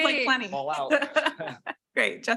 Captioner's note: laughing